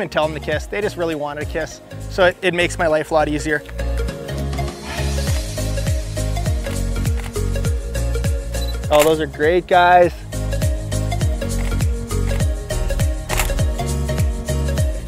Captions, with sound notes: I didn't even tell 'em to kiss, they just really wanted to kiss, so it makes my life a lot easier. (beep and click) Oh, those are great, guys. (upbeat music)